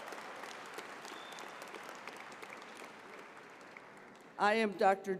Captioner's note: applause